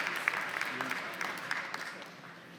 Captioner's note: applause